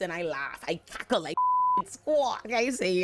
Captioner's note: beep